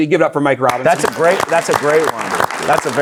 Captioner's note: audience applauding